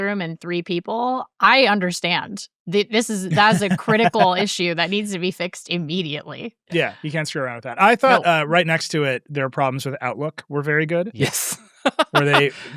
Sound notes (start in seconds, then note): 3.2 laughing; 11.0 laughs